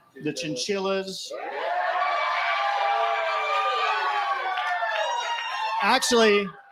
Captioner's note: laughter & cheering